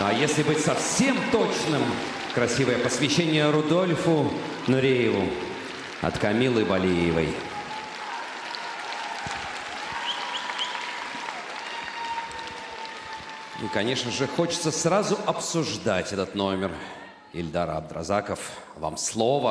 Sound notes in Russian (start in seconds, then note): 10.2 аплодисменты